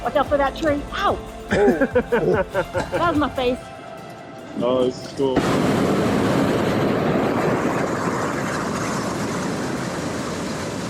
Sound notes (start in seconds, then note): 1.5 laughing; 5.4 burner roars